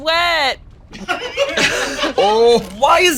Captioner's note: all laughing